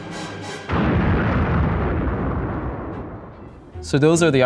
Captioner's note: Death Star exploding